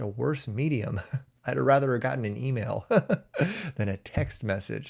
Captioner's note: chuckles